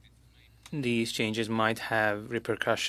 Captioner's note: speaking French